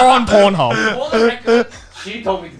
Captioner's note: laughing